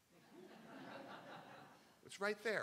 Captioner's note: crowd; laughing